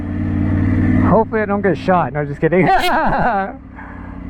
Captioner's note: laughs